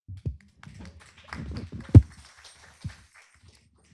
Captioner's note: applause